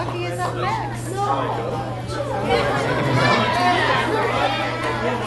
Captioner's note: people chattering